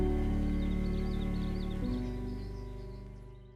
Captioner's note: birds chirp